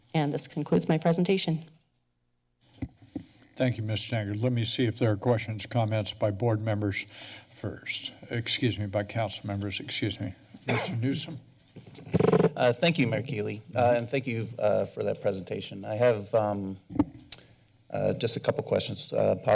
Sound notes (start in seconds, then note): 11.8 mic sounds